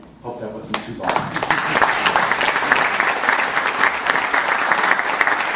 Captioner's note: applause